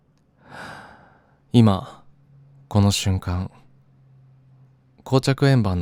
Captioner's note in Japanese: ため息